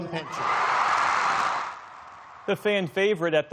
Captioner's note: cheering